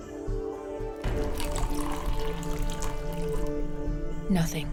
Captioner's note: gentle mysterious music; liquid trickling